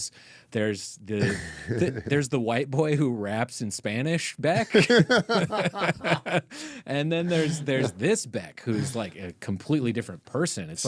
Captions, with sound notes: There's the white boy who raps in Spanish, Beck. (laughing) And then there's this Beck who's like a completely different person.